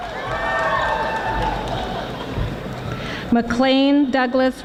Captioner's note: audience applauding